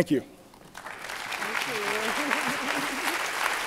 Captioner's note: applause